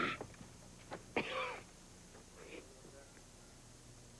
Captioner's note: coughing